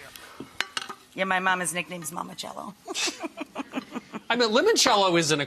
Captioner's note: laughs